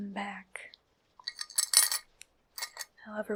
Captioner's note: jewelry clinking